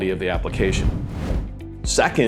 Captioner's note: video graphics whooshing